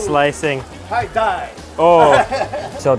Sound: speaking in foreign language

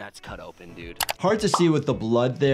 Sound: graphic clicks and pops

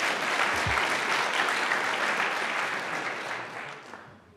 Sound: audience applauds

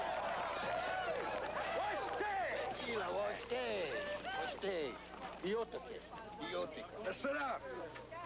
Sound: speaking Sioux

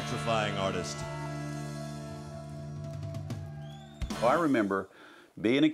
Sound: audience cheers

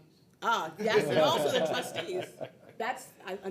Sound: people laughing

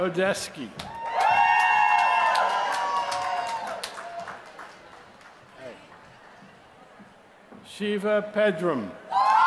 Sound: applause; applause

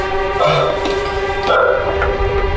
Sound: sigh

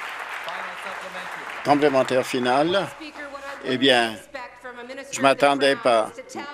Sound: applause

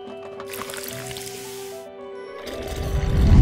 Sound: soft drink crackles

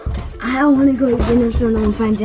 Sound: basket rattles

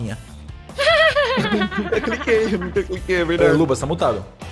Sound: laughs

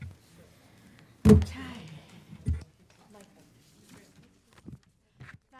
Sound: people chattering

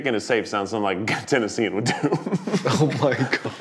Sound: chuckling

